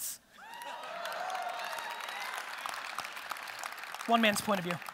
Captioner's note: audience applause